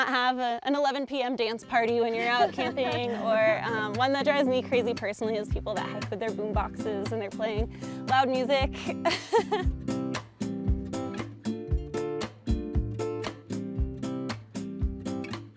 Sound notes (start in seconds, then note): 8.7 laughs; 9.6 laid back music